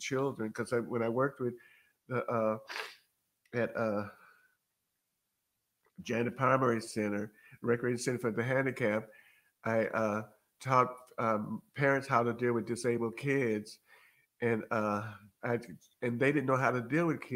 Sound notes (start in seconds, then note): none